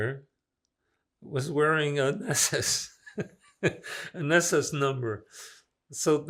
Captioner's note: laughing